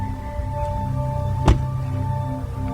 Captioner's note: car door closes